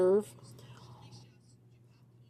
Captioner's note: speaking in French